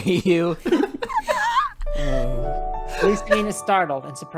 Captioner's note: tries to hold onto laughter; busts out laughing